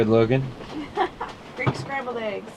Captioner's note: laughing